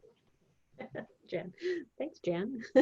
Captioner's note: laughing